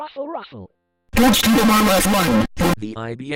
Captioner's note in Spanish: furiosamente